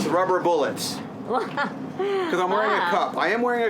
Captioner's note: chuckles